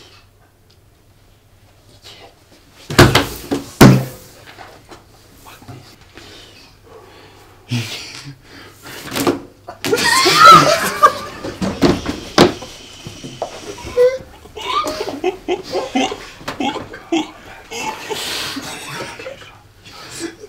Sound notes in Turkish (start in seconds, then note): 9.7 sandalyeden düşme ve gülme sesleri; 13.7 orangutan gülme stili